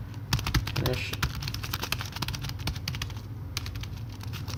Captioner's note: typing